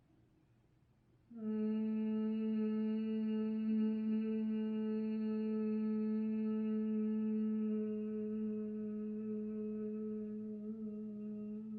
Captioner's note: humming